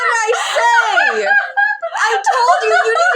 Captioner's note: cackle